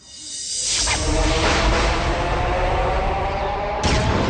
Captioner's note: swirling, thunder